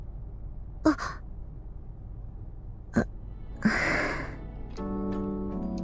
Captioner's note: sigh